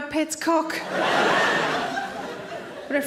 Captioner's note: audience laughing